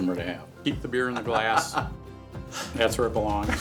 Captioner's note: laughter